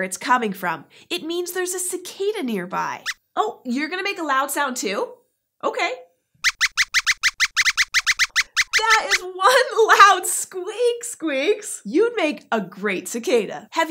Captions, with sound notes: it’s coming from. It means there’s a cicada nearby! [Squeaks squeaks a warning] You’re going to make a loud sound, too? [Squeaks makes a loud squeak]. That’s one loud squeak! You’d make a pretty good cicada.